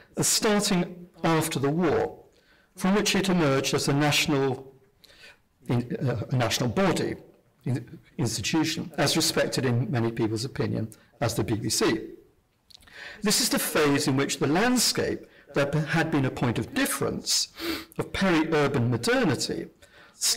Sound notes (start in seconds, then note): none